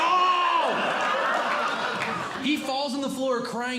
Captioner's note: audience Laughing